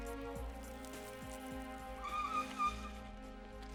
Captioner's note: soft screech of brakes